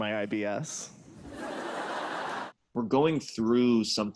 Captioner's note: crowd laughs